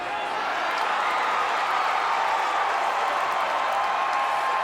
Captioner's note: crowd cheers